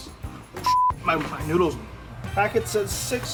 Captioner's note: beep